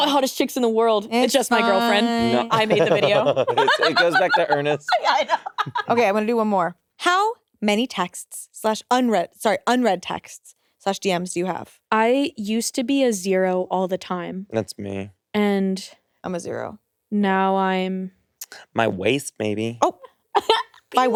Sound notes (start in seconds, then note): 1.4 laughs